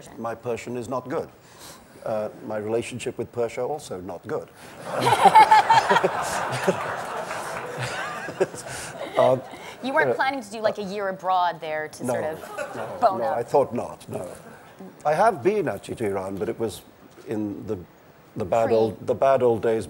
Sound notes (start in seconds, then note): 4.8 laughter